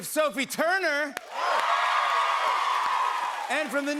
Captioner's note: cheers and applause